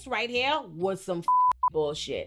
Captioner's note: beep